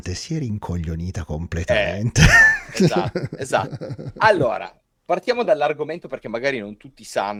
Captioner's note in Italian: risate